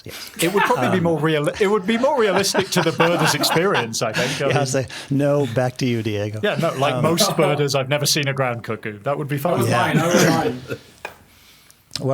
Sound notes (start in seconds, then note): 0.1 laughing; 4.9 everyone laughing